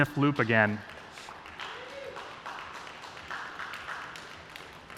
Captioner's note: applause